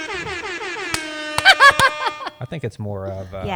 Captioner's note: air horn sound effect; laughs